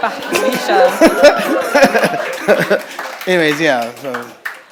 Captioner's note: audience laughing and clapping